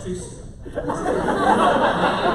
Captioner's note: laughter